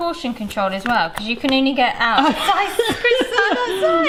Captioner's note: laughs